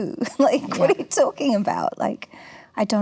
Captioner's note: laughs